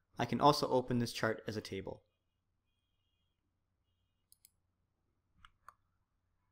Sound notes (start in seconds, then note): 4.3 keyboard clicking